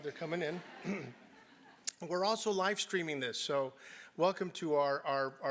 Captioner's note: laugh